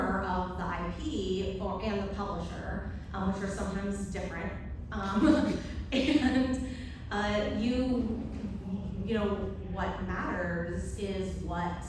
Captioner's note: laughs